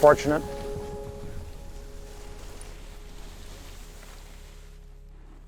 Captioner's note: skis scraping